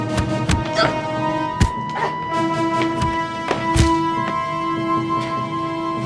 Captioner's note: suspenseful music continues; fists pounding